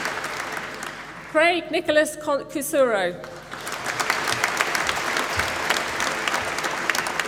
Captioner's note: applause